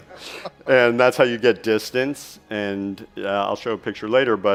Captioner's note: chuckles